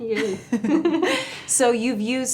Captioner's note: chuckles